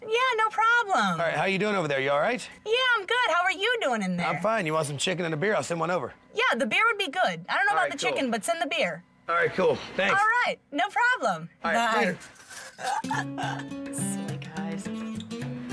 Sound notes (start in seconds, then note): 12.7 laughs